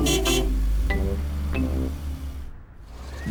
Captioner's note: car horn honks